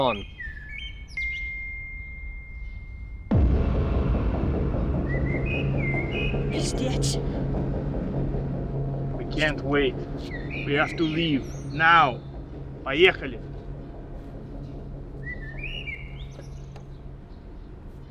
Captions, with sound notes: - Gone. [phone notification beeps] [ominous music] [Lada speaking Russian] - We can't wait. We have to leave, now. [speaks Russian] [suspenseful music]